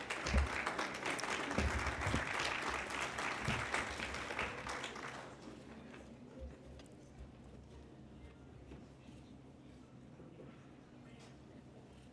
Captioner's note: applause